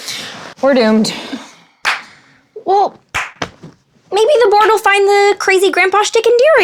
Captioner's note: Carmilla clapping...sarcastically